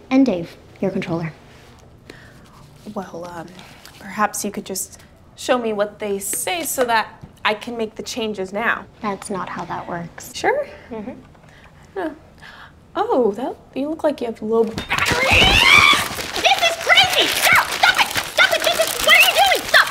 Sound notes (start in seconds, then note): 14.9 Sarah shrieks